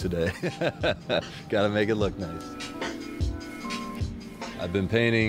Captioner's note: laughs